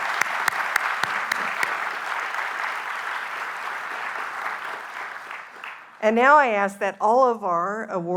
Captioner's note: applause